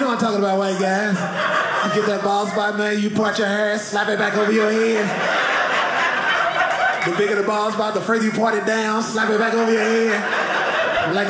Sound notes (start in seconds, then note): 5.4 audience laughing